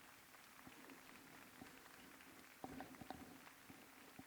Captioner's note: applause